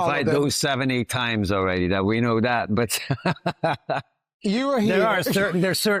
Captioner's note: laughs